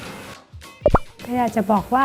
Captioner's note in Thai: เสียงเอฟเฟกต์